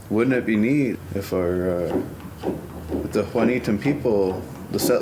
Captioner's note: speaks foreign language